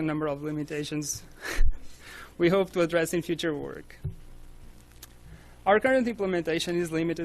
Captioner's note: chuckles